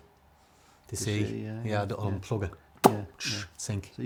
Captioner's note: pops